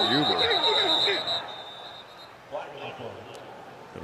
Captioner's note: whistle; pa announcement